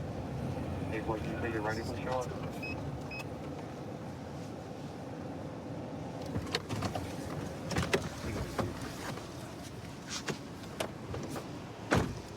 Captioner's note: indistinct dispatch speech